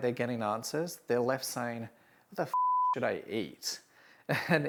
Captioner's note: beep